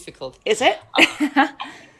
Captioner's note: laughs